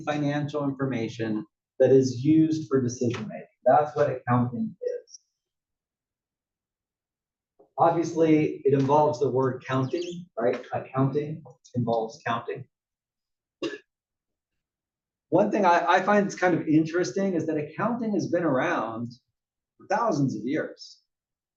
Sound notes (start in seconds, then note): 13.6 cough